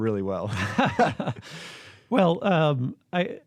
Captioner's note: laughter